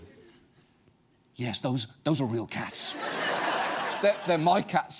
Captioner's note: audience laughs